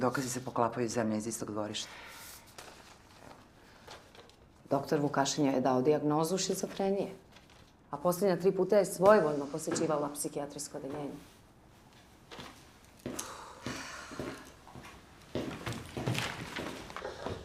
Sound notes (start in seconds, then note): 13.1 both sighing